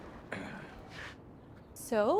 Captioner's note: Cole clears throat